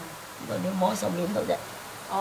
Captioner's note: Cantonese